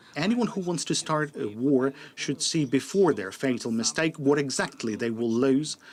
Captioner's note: speaking alternate language